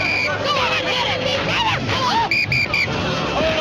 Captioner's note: whistle blowing